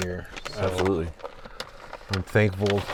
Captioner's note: none